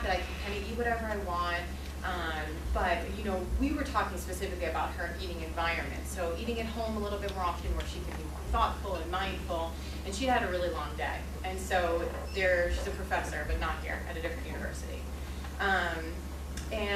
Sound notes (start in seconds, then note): none